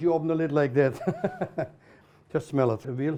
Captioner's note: laughs